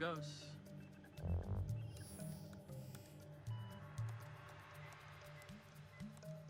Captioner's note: dramatic music; computers beeping